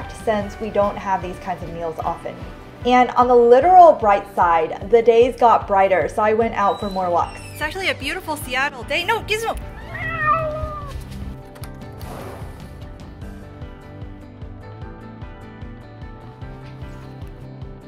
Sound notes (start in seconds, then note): 9.7 cat meowing; 11.7 upbeat music